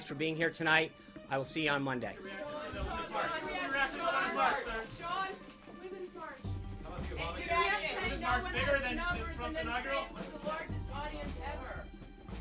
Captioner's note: crowd yelling questions as he walks away